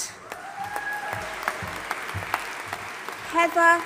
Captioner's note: audience applauding and cheering